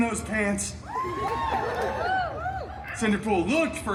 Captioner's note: guests cheering